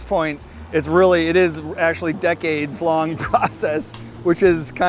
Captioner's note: laughs